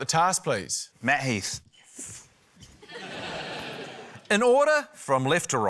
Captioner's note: laughter